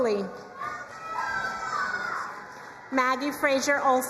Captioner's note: crowd cheering and applauding